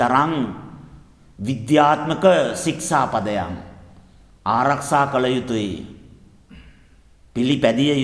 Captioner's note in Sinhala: උගුර කෑරීම